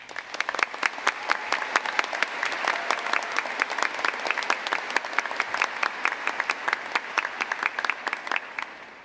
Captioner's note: cheers and applause